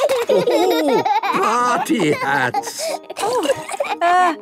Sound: laughing

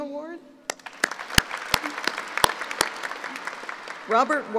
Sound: applauding

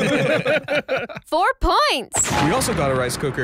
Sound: laughs

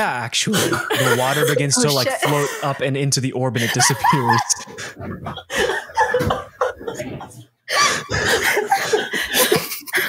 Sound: laughing fit continues

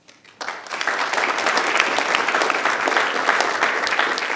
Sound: audience applause

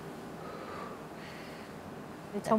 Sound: breathing heavily

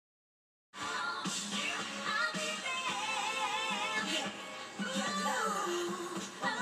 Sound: background TV noise/music

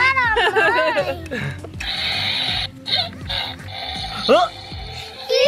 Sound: balloon squeaks

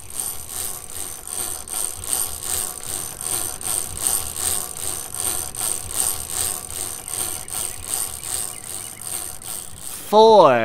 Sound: chain cranking

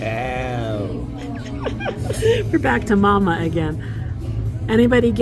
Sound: laughter

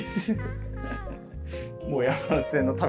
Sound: laughing

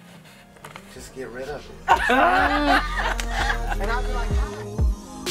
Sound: laughing

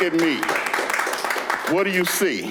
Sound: clapping

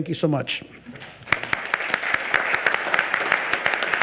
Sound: audience applaud

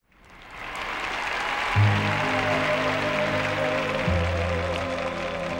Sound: audience applauding; gentle music

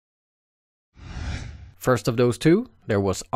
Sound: air whooshing

